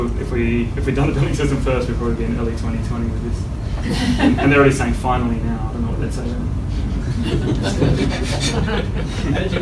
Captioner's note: laughter